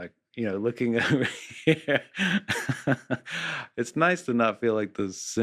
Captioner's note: laughs